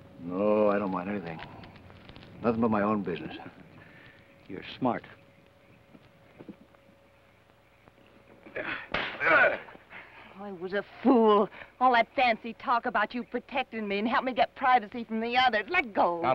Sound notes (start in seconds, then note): 8.9 slap; 9.2 Theodore grunts